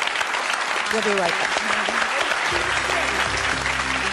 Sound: audience applauding; upbeat music

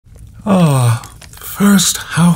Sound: Santa sighs

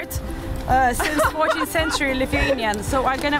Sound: laughing

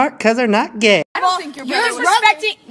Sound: mingled voices

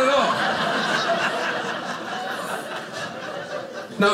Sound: audience laughing

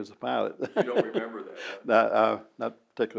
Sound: laughs

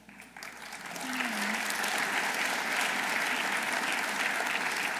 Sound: audience applauding

